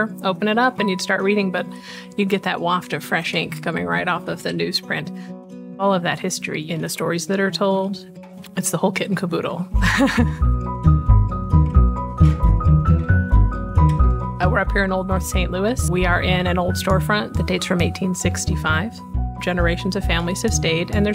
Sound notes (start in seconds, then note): 9.8 laughs; 10.8 upbeat music continues